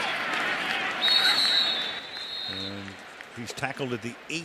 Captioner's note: whistle blows